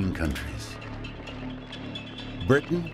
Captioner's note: troops marching